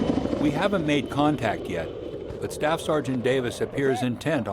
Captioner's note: marine on radio; sound of helicopter rotors; voiceover